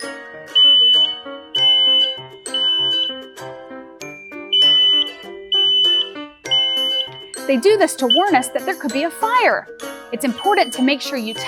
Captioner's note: smoke alarm sound eeffect